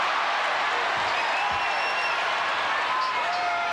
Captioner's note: crowd cheers